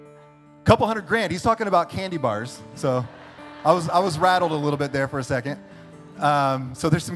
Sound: audience laughter

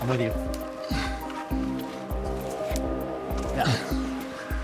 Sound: straining

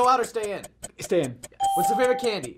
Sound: ding

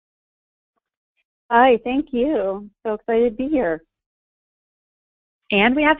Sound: voiceover

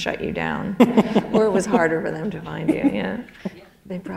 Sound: chuckle

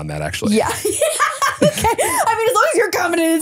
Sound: laughing

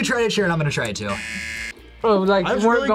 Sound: buzzer

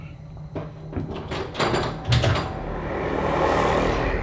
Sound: loud rattling; deep growling

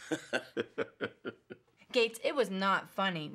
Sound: laughing

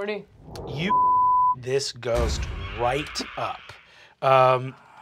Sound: beep

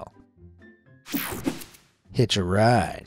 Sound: image whooshing

